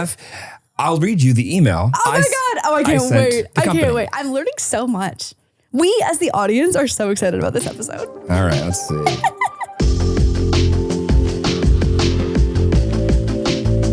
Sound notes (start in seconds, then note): 8.8 person laughing; 11.2 upbeat music